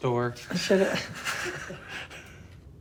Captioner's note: chuckling